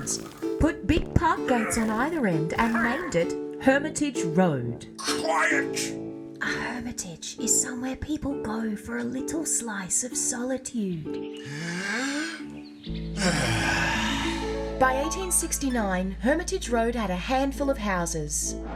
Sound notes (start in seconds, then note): 11.4 breathes deeply